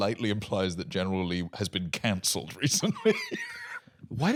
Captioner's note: laughs